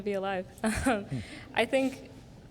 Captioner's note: chuckling